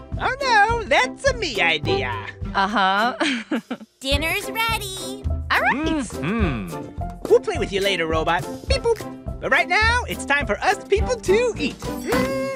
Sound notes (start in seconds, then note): 2.6 laughter